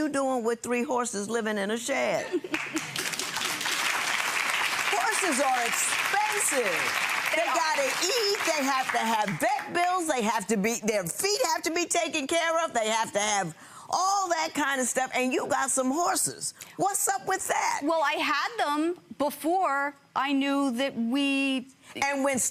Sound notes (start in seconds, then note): 2.2 laughing; 2.5 clapping